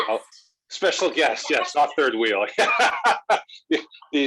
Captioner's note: laughing